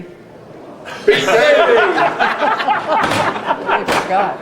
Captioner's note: photographer laughing; all laughing